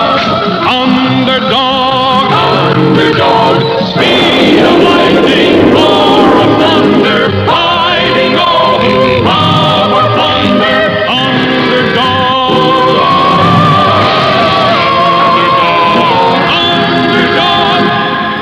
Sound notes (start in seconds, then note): 3.9 lighting Strikes; 12.9 crash!